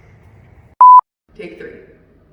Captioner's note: beep